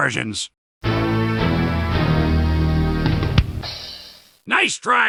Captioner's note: Mac Performa 5400 Death Chime